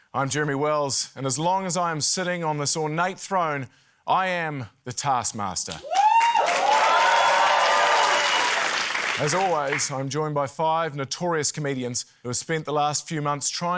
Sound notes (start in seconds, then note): 5.8 cheering, applause